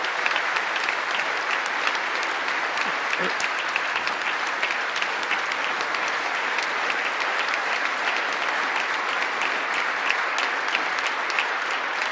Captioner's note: applause